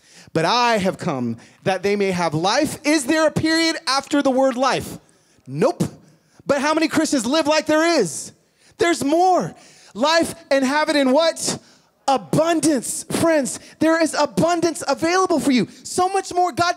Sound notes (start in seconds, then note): none